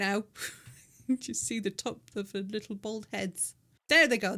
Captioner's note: laughing